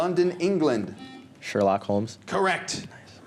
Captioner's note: buzzer